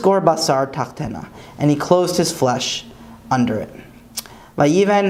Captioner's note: Hebrew